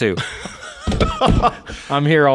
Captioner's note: laughing